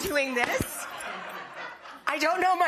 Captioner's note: audience laughing